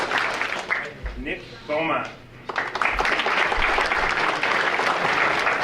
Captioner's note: audience applauding